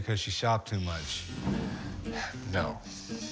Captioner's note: sighing